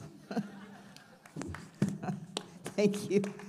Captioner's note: audience laughs